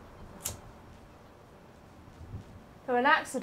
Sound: lighter flicking

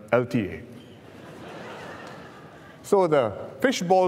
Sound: laughter

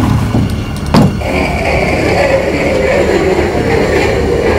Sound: door moves and slams; knife drags across wall

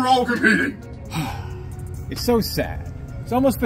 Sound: Homelander Sighs

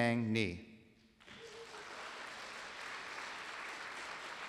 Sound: applause

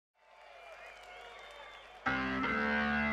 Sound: audience cheering; audience clapping; rock music

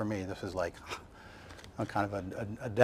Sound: sighs

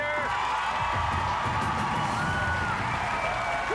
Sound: cheers and applause

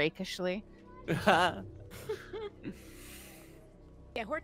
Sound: multiple chuckling

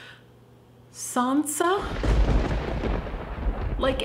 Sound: thunder

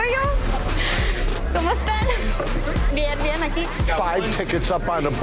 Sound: speaking in foreign language

